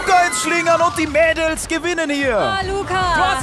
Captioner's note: Schreie